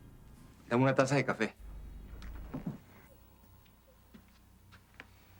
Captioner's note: Pico speaking foreign language